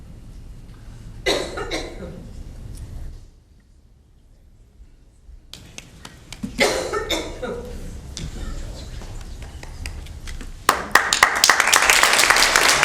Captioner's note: applause